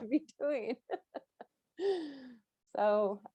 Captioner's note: laughs